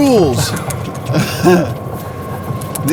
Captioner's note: laughs